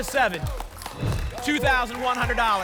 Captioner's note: whoosh